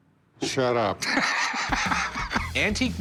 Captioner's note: rick chuckling